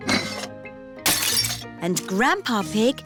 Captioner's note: shattering